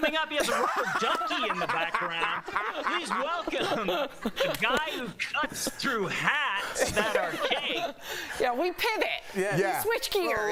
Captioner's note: laughter